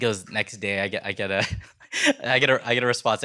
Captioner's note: chuckles